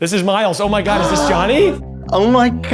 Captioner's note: gasps